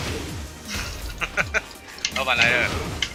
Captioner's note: laughs